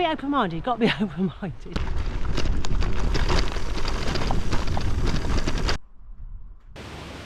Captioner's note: tyres on Gravel